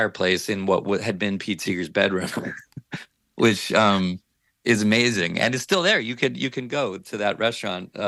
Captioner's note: chuckles